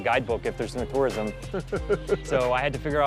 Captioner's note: laughs